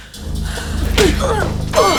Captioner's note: thudding; grunting; clanking